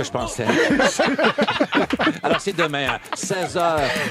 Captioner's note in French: rires